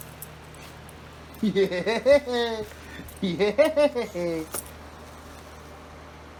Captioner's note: laughs